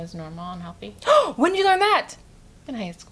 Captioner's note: gasps